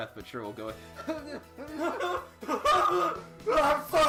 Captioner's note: overly exasperated breathing turning into hysterical yelling